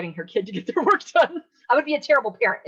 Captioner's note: laughing